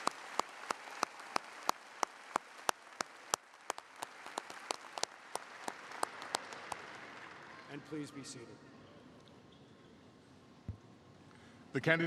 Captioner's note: applause